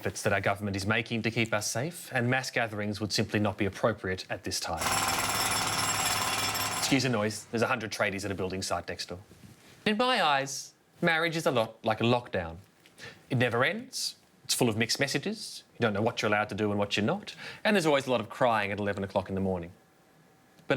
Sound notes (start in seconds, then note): 5.0 loud construction equipment sounds